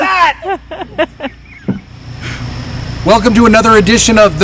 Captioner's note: laughing